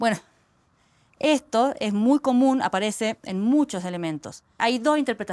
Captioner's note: speaking Spanish